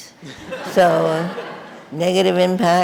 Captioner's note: audience laughing